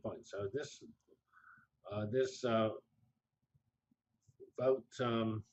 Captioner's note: pause